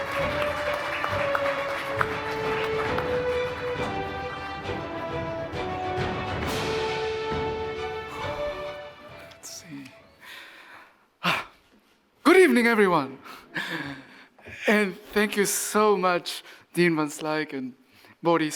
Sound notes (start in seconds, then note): 9.6 exhales